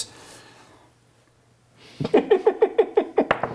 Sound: laughing

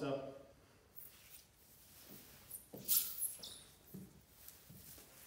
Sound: floor squeaks

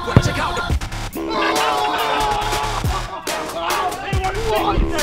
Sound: hip hop music; cheering

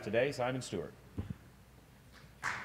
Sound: applause

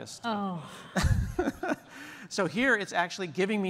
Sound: laughter

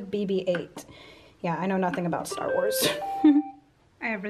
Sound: laughing

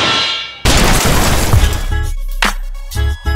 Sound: explosion; rhythmic music

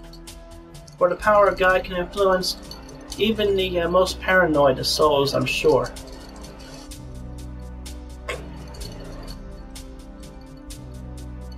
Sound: farts

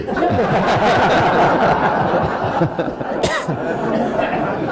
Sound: attendees laughing

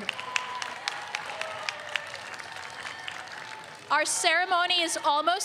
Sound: audience applauds

